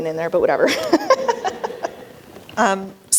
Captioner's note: laughter